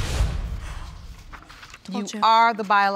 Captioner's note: sighs